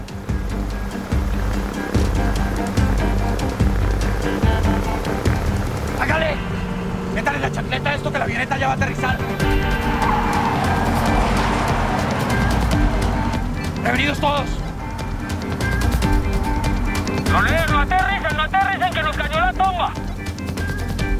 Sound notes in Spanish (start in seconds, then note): 0.2 Ruido de la avioneta; 10.1 Ruido de los vehículos; 17.1 Voz en la radio